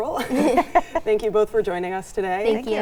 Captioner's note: chuckling